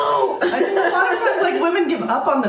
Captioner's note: laughter